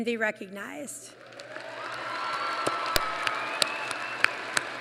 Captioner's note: applause